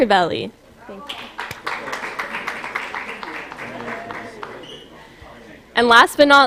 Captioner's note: applause